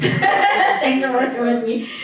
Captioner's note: laughing